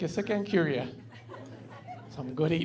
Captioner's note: laughing